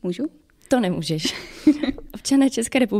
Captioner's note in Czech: smích